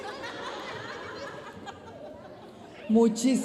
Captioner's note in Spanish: risas